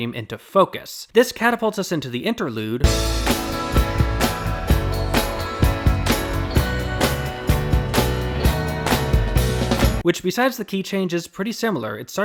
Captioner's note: bang